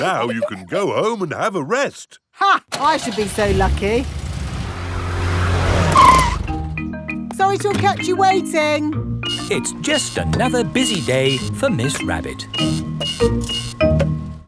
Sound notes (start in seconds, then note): 0.0 peppa and george giggling; 2.7 car engine starts; 5.9 brakes squeal